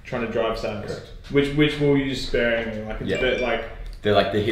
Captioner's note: phone beeps